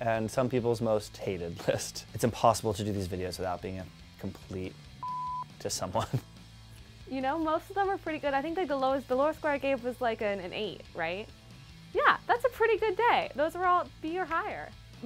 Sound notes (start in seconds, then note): 5.0 beep; 6.0 laughs